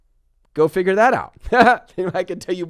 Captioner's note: laughs